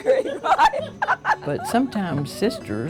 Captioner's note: laughing